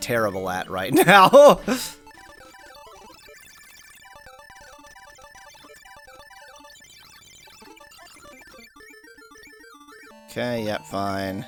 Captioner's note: awkward silence